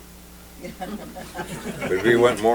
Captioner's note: laughter